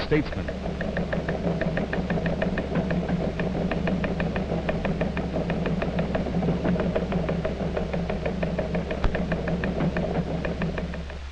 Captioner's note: rhythmic sound of teletype machine